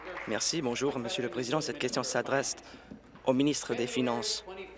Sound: applause

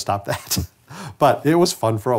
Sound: man laughs

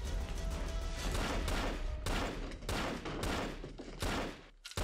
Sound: gun firing

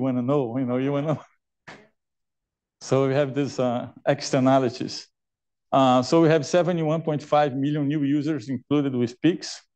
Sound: laughs

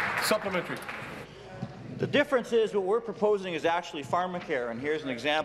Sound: applause

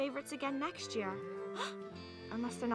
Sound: gasps

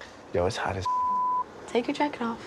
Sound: beep

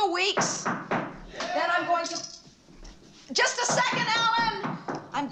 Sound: knocking Continues

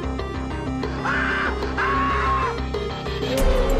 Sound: screaming

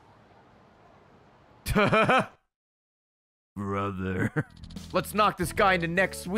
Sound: laughs

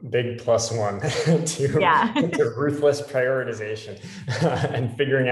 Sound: laugh

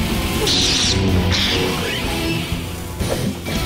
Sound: sabers clashing

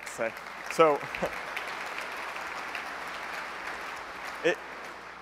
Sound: applause

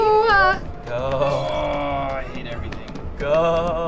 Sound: grumbling; quivering

